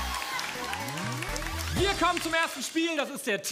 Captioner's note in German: Jubel